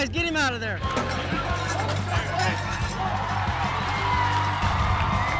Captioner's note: crowd cheering